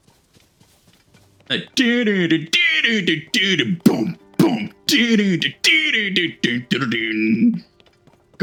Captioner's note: hums Theme